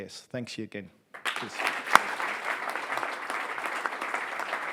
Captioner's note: audience applauds